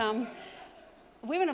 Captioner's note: audience laugh